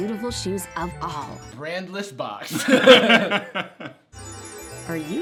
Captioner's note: laughs